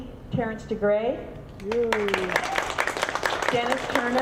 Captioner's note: audience clapping